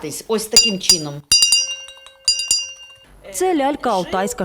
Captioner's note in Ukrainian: Звучить дзвіночок